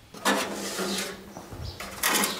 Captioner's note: metal clattering